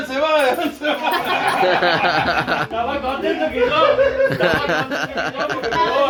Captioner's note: laughs